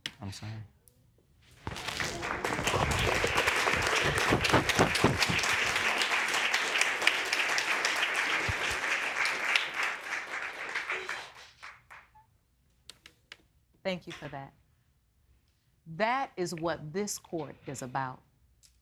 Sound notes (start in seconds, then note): 0.8 audience applauding